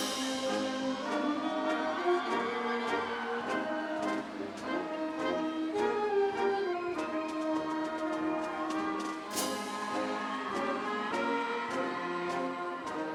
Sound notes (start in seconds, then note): 1.2 audience cheering; 1.2 upbeat ceremonial music